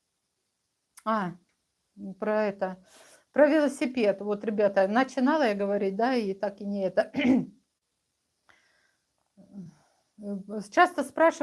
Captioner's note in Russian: откашливается